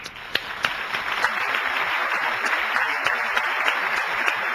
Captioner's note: audience applauding